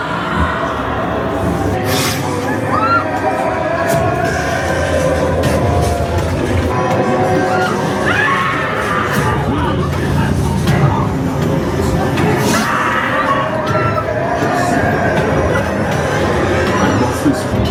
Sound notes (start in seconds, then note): 0.0 guests screaming; 0.2 spooky music; 6.9 guests screaming; 7.9 spooky music; 16.1 spooky music; 17.5 scareactor faintly speaking